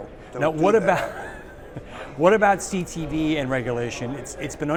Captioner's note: laugh